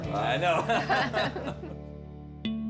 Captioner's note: laughter